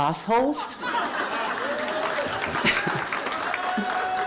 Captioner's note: laughter